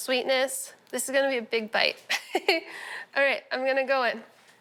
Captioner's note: chuckles